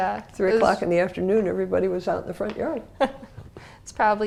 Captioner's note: laugh